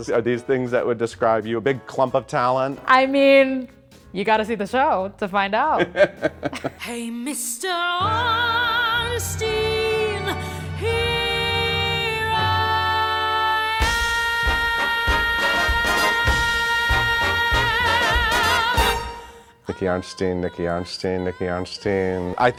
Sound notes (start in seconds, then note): 5.7 laughing